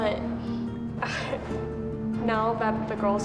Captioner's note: chuckles